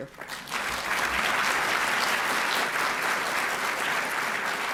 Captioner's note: applause